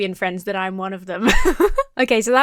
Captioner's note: laughs